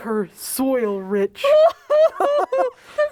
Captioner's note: laughing